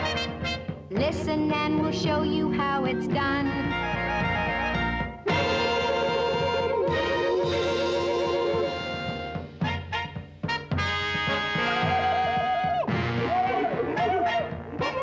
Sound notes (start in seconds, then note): 5.2 war hoots